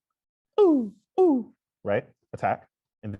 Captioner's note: makes falling vocal sounds